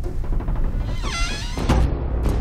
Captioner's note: door creaks; door thuds